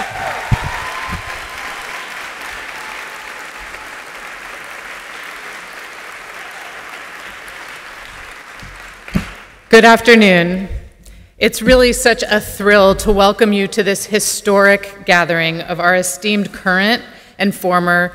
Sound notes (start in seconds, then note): 6.0 applause; 6.3 applause and cheers